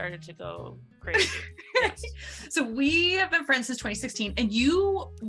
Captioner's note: laughs